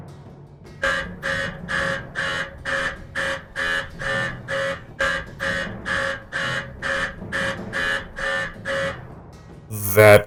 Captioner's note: alarm